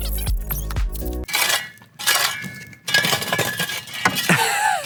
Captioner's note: metallic scraping; host laughing